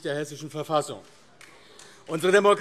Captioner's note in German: Beifall AfD